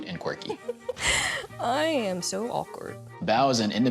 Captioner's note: laughing